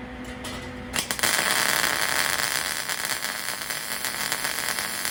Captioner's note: buzzing